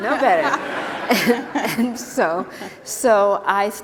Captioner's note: laughter